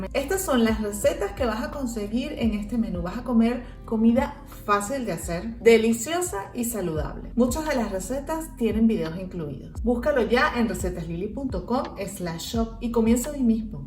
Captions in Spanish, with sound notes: estas son las recetas que vas a conseguir en este menú vas a comer comida fácil de hacer deliciosa y saludable muchas de las recetas tienen vídeos incluidos buscalo ya en www.recetaslily.com/shop (en español) y comienza hoy mismo